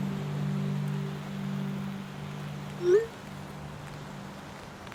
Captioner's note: rain falling steadily